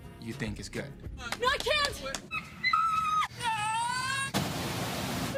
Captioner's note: screaming